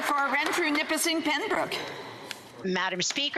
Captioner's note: applause